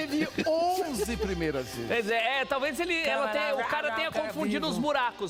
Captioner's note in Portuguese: risos